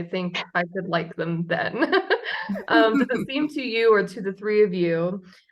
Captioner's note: laughs